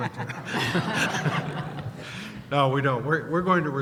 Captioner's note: laughter